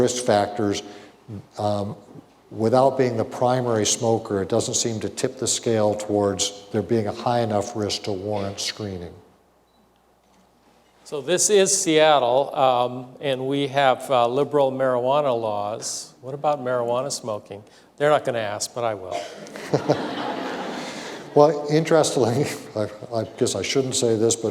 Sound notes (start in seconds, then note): 19.2 laughter